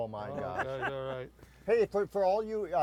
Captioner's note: laughs